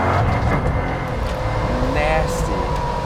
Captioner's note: engine revving; gears shifting